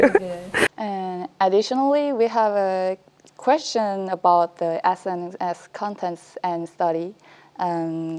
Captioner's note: Korean